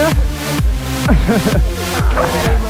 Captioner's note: laughing